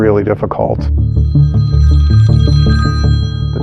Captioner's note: phohone r riningiging